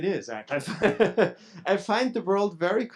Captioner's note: both laughing